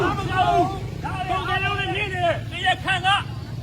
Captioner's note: crowd